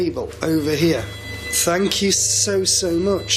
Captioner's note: machine beeping